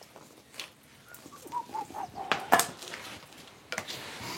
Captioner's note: he whistles softly to himself